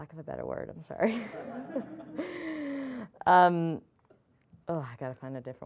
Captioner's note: audience laughing